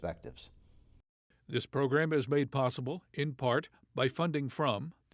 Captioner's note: voiceover